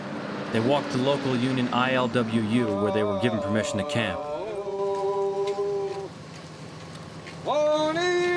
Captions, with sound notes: They walked to local union ILWU, where they were given permission to camp. (chanting)